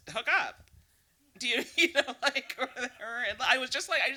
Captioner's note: laughing